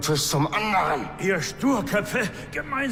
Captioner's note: Philip groans